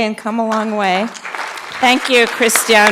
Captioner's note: audience clapping